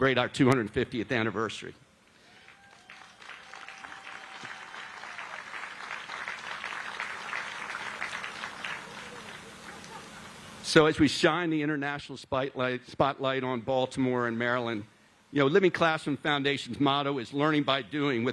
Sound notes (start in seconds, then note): 5.4 applause